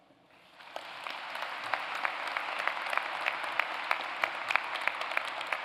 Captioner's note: applause